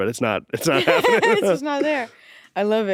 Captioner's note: laughs